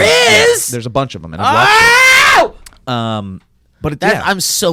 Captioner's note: yelling